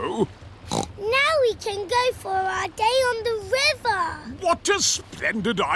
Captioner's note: snorts